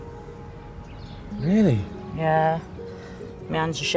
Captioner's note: voiceover